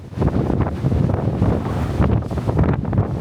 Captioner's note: sound of wind howling and waves crashing